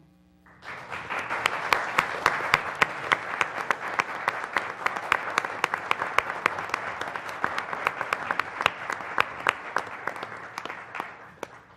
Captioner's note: applause